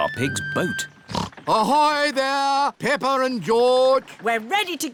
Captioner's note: snorts